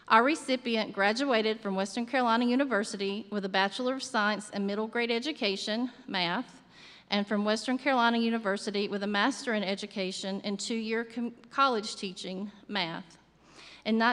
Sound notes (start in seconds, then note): none